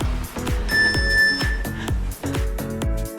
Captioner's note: timer beeps; cheerful music